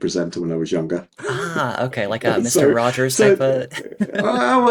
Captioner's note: laughing